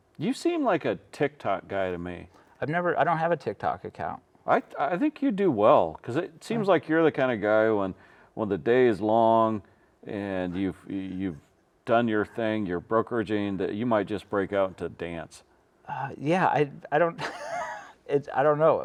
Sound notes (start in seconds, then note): 17.2 laughing